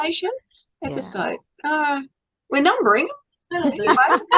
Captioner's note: all laughing